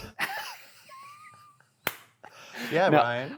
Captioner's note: laughing